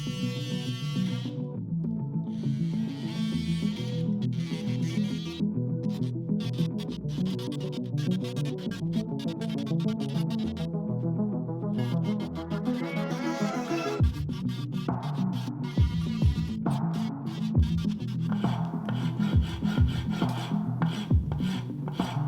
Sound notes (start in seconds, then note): 0.1 dramatic music; 5.6 drill whirring; 8.3 dramatic music; 19.3 dramatic music